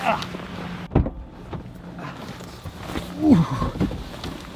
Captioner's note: door click